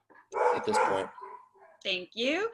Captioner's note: dog barking